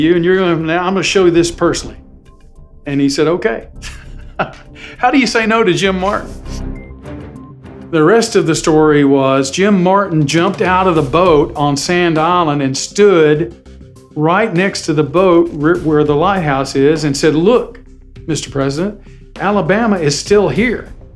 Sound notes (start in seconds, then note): 3.8 laughs